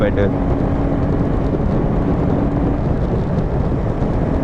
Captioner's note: wind noise